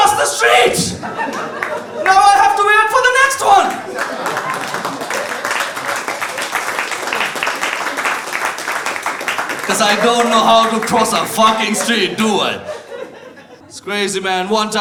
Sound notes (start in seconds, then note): 4.6 audience applauds